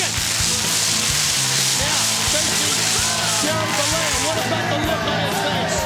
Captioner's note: pyrotechnics sizzling